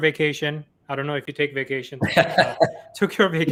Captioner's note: laughs